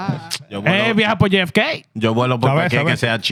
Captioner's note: speaking In Foreign Language